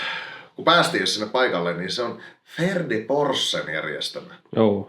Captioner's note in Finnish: hengähtää